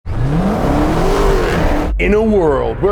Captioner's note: car engine revving